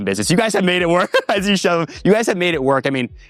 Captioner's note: laughs